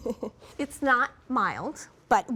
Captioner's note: laughs